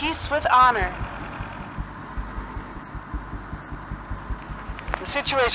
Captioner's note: motor